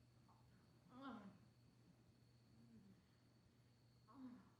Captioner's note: muffled moaning